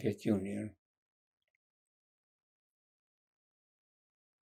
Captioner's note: pauses 6 seconds